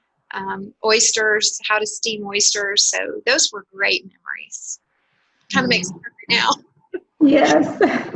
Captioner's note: laughter